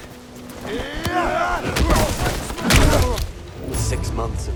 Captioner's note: groaning